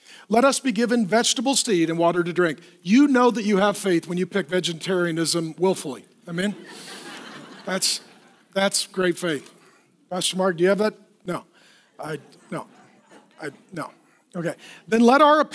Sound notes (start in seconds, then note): 6.5 laughing